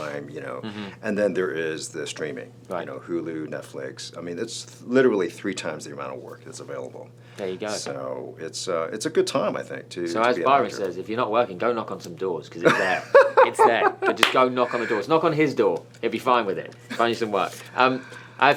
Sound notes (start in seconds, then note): 12.6 Byron laughs